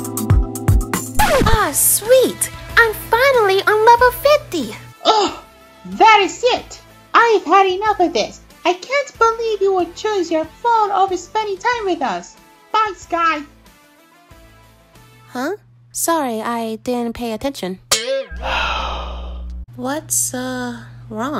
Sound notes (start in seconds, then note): 1.2 record scratches; 5.6 groans; 18.3 connor sighing